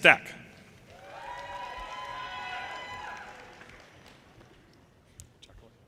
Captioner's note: audience cheers and applause